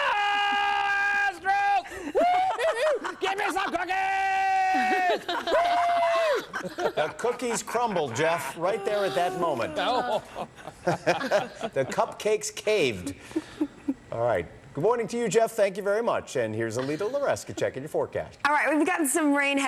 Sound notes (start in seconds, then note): 4.9 laughter